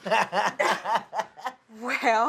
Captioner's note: laughs